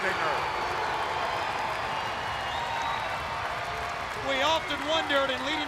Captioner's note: crowd cheering